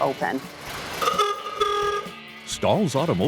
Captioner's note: horn honking